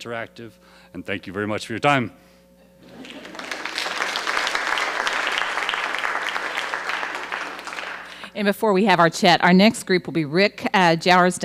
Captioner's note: applause